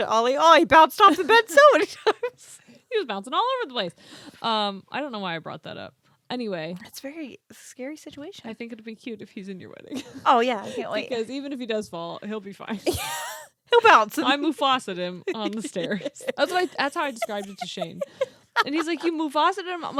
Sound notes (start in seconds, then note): 2.0 both laughing; 12.8 laughs